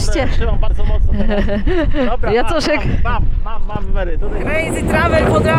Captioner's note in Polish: śmiech